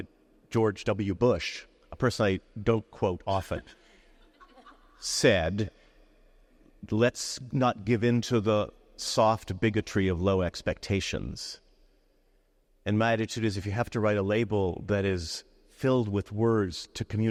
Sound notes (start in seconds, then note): 3.4 attendees laughing